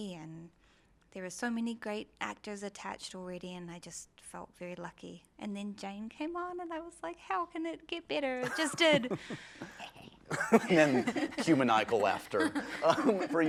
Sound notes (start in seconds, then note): 8.4 laughs evilly; 10.2 laughs